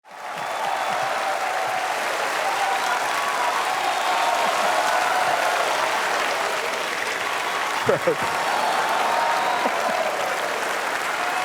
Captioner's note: applause